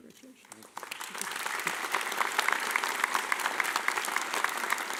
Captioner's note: audience applauding